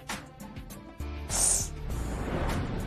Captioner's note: sniffles